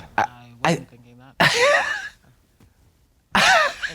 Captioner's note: Katya hisses